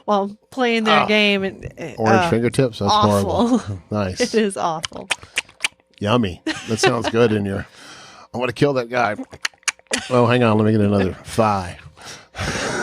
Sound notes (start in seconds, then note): 4.8 smacking lips; 9.2 smacks lips; 12.4 chuckles